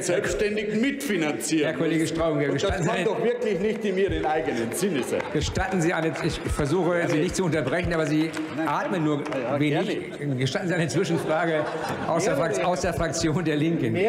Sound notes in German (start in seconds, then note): 9.9 Heiterkeit und Beifall bei Abgeordneten der CDU/CSU